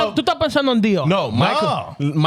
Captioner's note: speaking Foreign Language